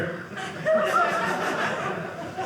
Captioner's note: audience laughing